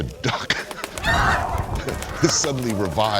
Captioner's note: laughs; duck honks